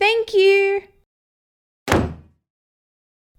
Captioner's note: door Shut!